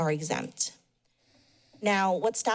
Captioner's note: pause